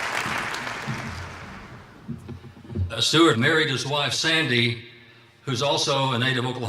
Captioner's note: applause